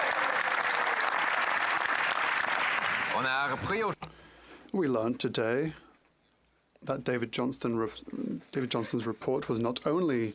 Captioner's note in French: voix de l'interprète